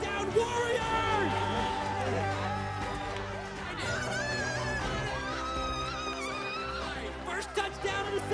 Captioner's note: cheering